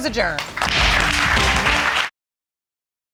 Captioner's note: audience applauding